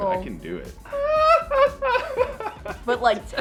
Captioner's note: high-pitched laugh